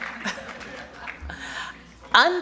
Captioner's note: applause